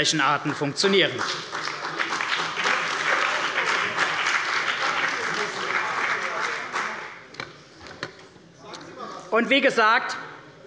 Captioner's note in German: Beifall bei der CDU und dem BÜNDNIS 90/DIE GRÜNEN